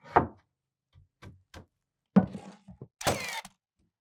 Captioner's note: wooden boards clanking; power tool whizzing